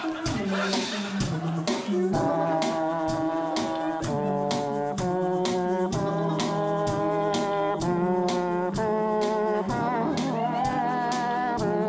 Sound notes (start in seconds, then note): 2.3 mouth trumpet sounds